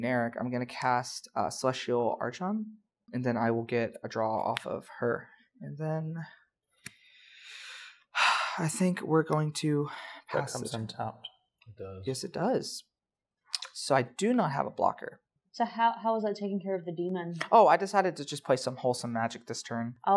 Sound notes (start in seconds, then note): 8.2 dramatic sigh